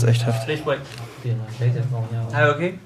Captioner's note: bubble of voices